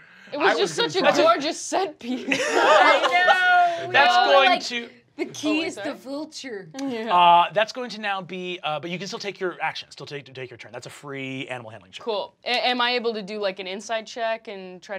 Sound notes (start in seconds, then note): 2.2 laughing